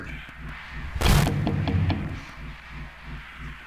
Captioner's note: knocking on door